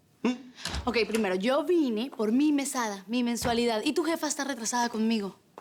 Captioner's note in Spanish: Ruido en la puerta